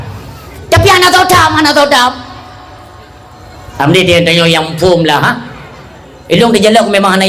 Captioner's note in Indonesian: tertawa